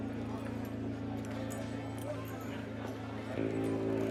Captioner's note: saloon chatter